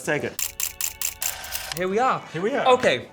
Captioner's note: camera shudders